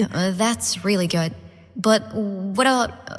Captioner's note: none